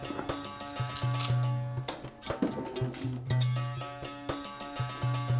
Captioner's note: metallic clanking